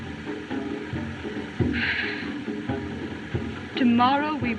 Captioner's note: sighs